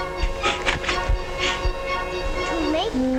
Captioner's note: gnome sniffling